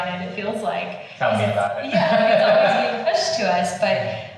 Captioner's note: laughing